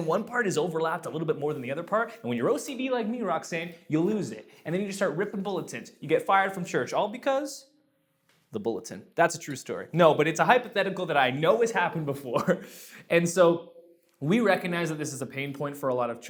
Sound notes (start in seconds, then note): 12.8 laughs